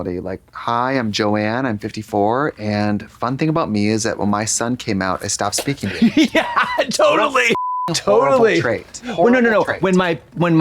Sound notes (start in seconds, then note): 7.5 beep